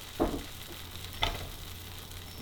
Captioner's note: deep sizzle; thud